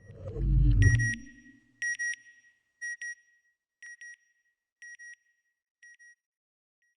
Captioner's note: beeping